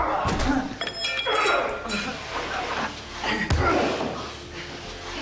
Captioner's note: groaning